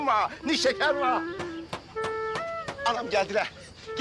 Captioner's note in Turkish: Kapı vurma sesi